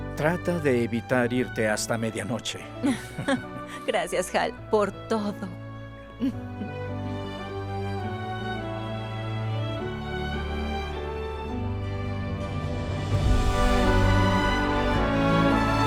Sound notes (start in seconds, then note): 2.8 Ambos ríen; 6.2 Esperanza ríe; 7.1 Música inspiracional